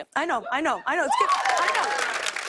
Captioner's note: cheers and applause